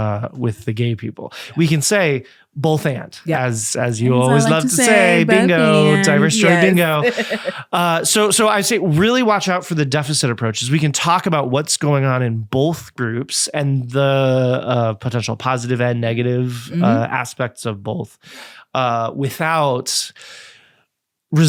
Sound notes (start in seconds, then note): 6.9 laughing